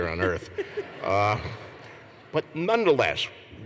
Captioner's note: laughter